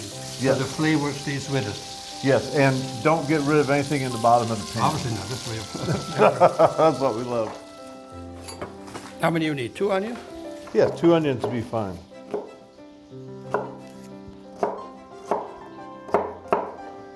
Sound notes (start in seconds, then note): 5.6 laughs; 13.2 knife clacking